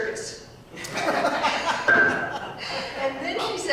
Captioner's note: audience laughing